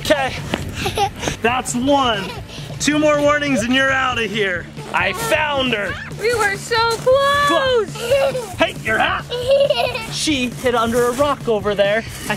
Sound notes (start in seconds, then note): 6.9 laughs